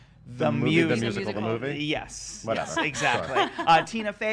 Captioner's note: laughs